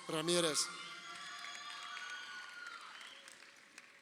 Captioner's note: crowd cheering